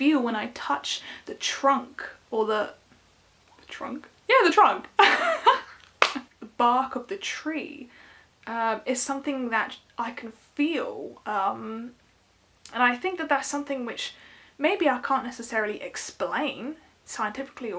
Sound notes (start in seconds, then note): 5.0 laughs